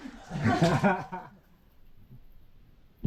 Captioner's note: laughing